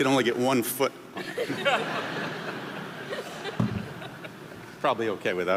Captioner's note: audience laughing